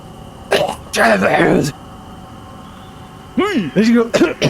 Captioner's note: gags